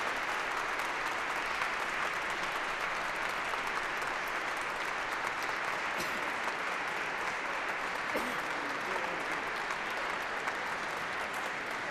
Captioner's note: applause